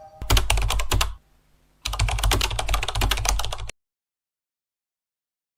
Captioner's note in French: bruit de clavier